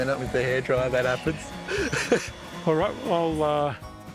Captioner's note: chuckles